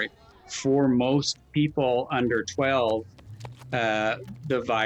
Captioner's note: feet clattering